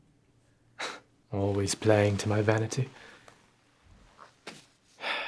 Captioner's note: sighs